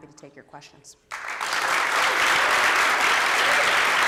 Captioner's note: applause